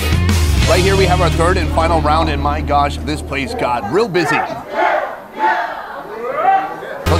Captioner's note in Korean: 야야!! 화이팅 소리들